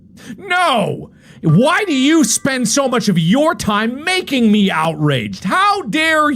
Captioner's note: yelling